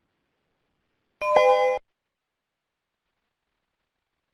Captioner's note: beeps